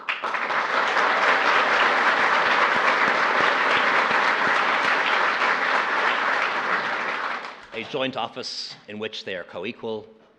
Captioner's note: applause